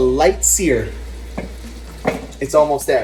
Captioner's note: chicken searing